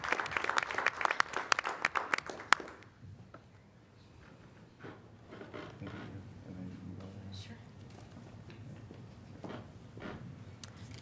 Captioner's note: applause